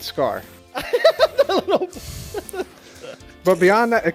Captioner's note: laughs; sighs